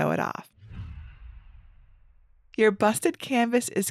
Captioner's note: image whooshes